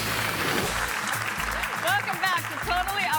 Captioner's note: audience applauding